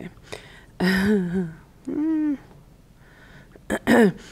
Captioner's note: chuckles